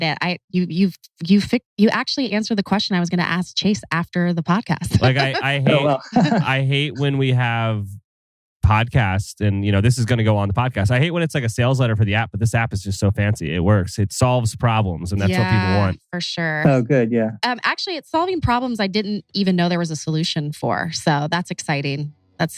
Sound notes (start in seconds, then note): 4.8 laughs; 16.4 laughs